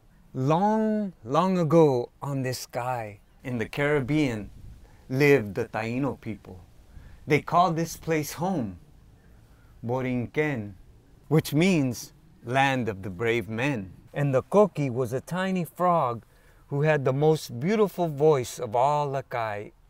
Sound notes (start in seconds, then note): 9.7 speaks in Spanish